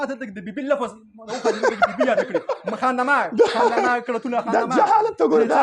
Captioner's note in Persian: خنده